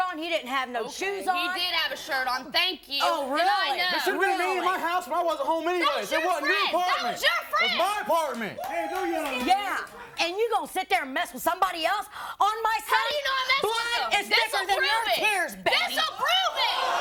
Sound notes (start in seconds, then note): 7.6 audience cheers